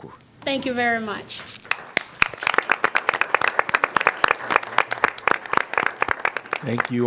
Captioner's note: applause